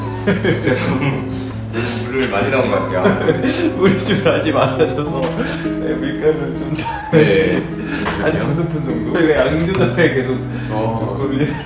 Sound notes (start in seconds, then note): 2.9 laughs